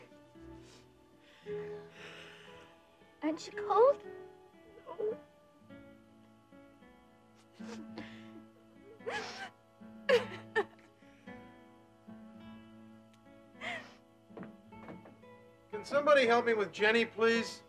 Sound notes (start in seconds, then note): 9.0 Connie crying